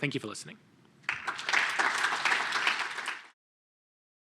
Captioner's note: applause